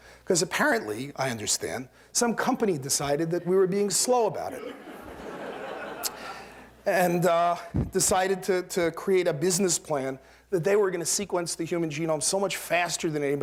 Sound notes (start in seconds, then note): 4.5 laughter